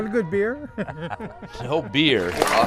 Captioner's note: both laughing